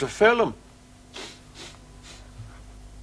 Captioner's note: sniffing